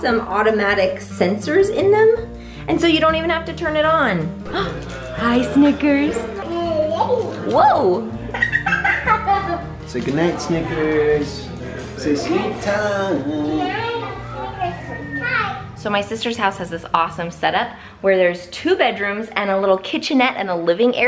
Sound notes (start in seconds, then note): 8.2 giggles